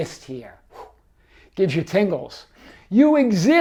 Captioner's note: exhales sharply